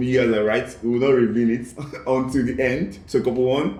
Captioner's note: laughs